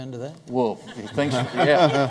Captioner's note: laughter